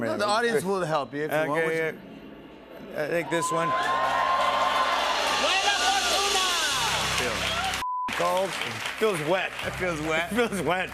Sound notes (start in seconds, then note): 3.3 cheers and applause; 5.3 speaking in Latin